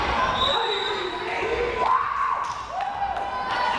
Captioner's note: whistle blares